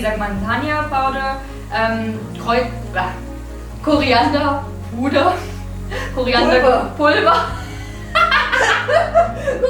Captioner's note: laughing